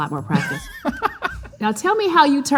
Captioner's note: laughing